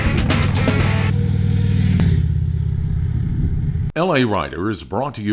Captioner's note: motorcycle engine purring